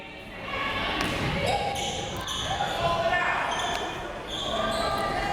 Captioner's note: crowd members shouting